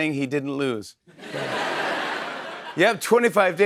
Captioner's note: laughter